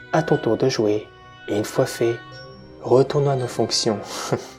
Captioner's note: laugh